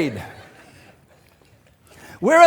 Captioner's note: congregation laughing